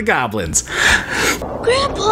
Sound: anticipation sounds

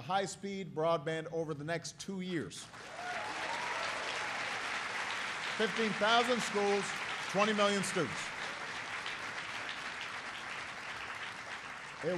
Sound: applause

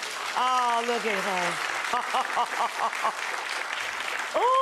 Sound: laughs

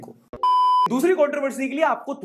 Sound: beep

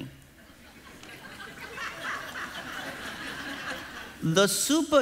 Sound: congregation laughing

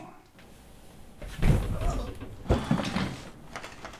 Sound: loud thud

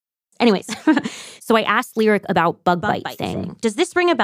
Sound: laughs

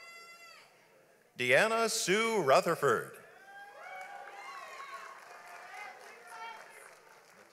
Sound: audience applauds

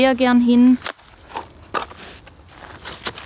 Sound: sound of shovels

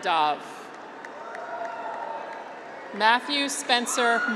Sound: graduates cheer

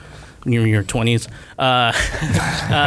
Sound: laughter

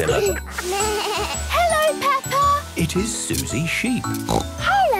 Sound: bleating; snorting

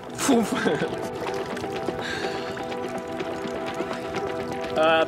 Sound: water trickles

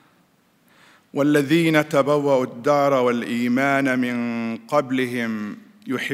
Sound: speaking in foreign language

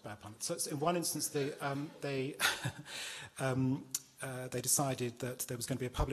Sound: chuckles

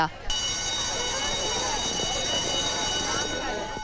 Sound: school bell rings

